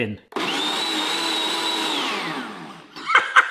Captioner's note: blender whirring; laughs